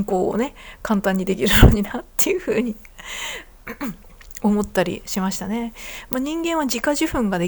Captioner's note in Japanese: 咳払い